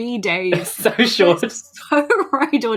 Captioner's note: laughing